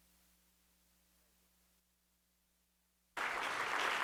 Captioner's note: applause